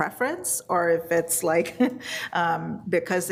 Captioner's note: laughs